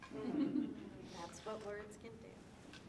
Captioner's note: audience laughing